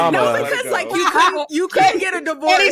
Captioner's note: laughing